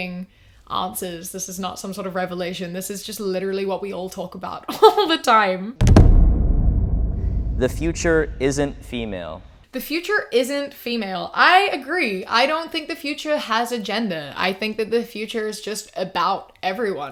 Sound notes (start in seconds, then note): 5.8 booming sound